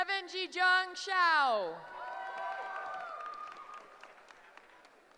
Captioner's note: cheering